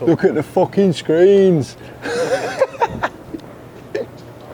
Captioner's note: laughs